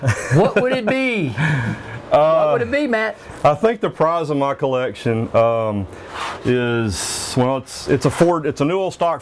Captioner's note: laughs